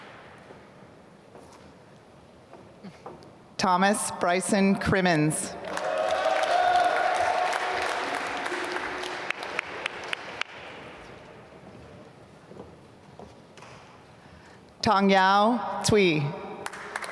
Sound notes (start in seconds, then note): 5.6 applause